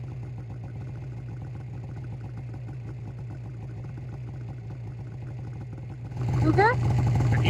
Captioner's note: snowmobile engine idling